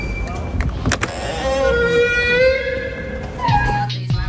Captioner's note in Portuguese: porta rangendo